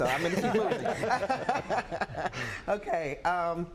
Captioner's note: laughs